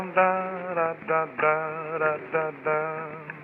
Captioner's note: humming, scatting a tune